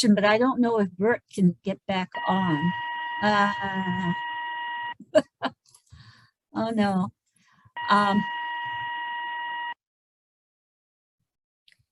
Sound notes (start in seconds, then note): 2.1 technical beeping; 7.8 technical beeping